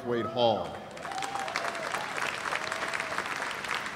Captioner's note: cheers and applause